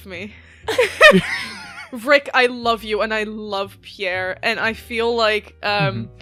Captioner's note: laughter